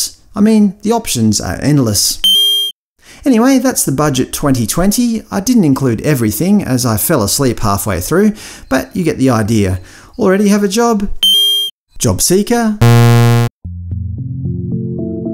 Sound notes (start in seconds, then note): 2.1 ding; 11.2 ding; 12.8 bzzz